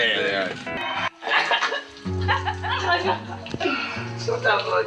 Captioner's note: peaceful guitar; laugh